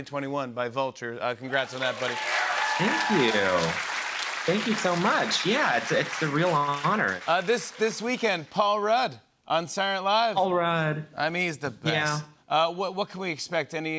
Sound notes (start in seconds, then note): 1.4 cheers and applause